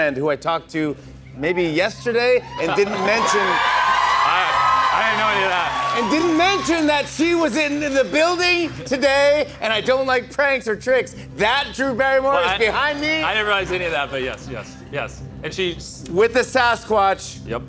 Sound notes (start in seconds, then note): 2.4 cheers and applause